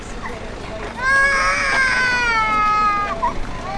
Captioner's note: baby crying